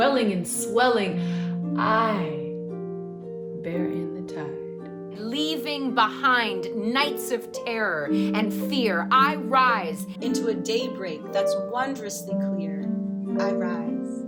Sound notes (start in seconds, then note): 5.1 woman 4 speaking